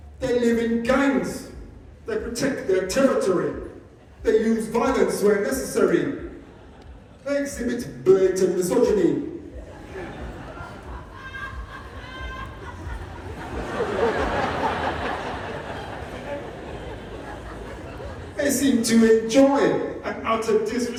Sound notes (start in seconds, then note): 10.5 loud single laugh; 13.2 audience laughs at them